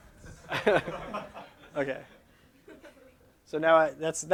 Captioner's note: laughter